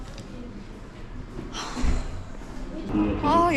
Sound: deep sigh

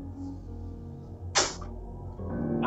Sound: slurps honey

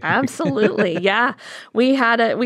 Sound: laughter

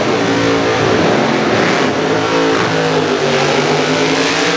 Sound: gassers drag racing burnout sounds

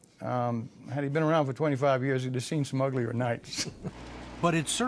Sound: laughing

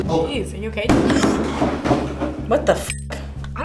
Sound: gasps

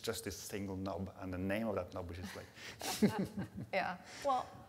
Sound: laughs

